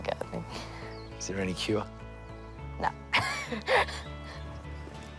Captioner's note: laughs